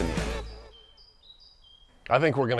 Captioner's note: birds chirping